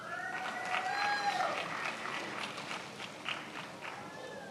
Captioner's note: attendees applauding